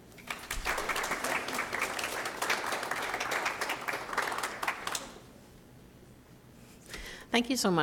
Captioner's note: applause